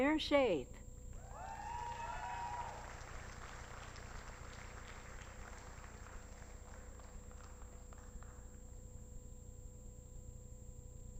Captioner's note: applause